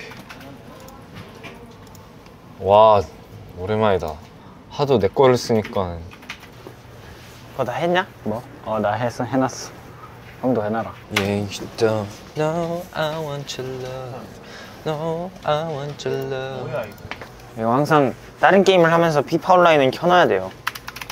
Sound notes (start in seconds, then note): 14.2 A bit too into it to call it humming